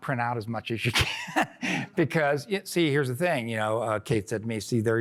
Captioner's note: laughter